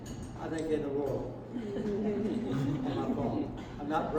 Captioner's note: laughter